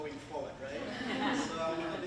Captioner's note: audience laughing